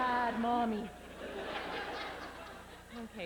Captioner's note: laughter